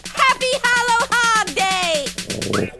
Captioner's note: growls; squeaks